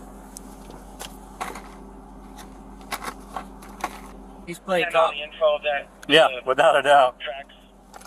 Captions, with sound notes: (Radio chatter) He's playing cop Yeah, without a doubt Tracks,